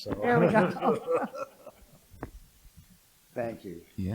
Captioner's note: laughter